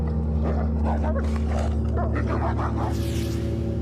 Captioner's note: growling